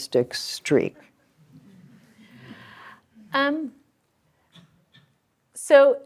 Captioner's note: laughter